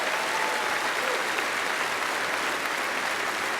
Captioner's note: applause